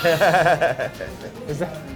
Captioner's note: laughter